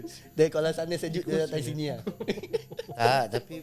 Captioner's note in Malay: ketawa